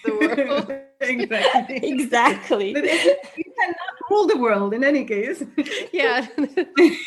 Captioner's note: laughs